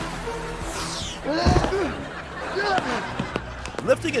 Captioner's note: grunting